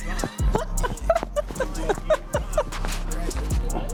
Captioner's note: laughs